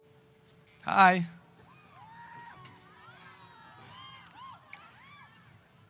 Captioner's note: audience applause